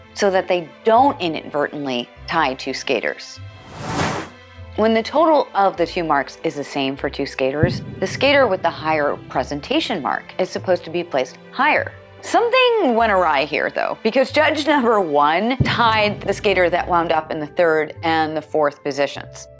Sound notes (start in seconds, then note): 3.5 whoosh